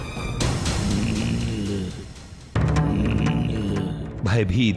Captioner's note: grunts